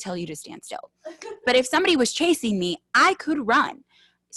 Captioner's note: laughing